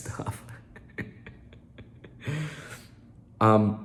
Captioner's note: laughing